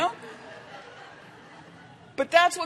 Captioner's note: laughter